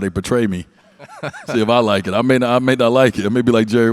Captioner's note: laughs